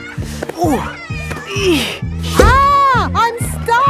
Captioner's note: grunting